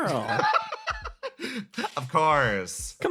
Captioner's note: laugh